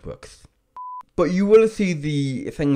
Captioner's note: digital beep